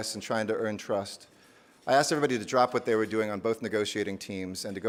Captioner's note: none